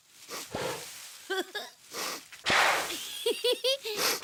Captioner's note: blowing and laughing